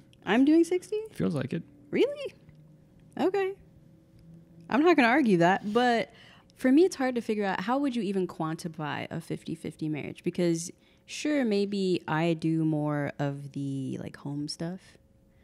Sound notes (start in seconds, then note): none